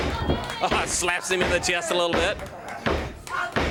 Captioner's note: crowd chatter